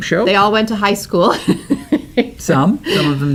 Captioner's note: laughter